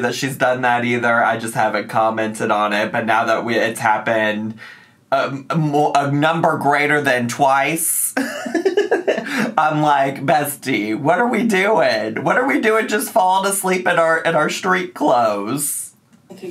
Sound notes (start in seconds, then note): 8.1 laughing